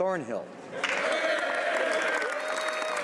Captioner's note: speaking French